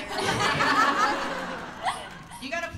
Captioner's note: laughter